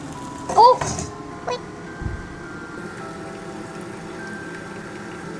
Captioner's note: sob sob